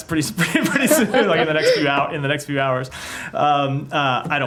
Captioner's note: laughter